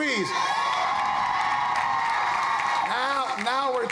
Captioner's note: crowd cheering